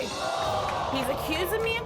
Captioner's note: audience groans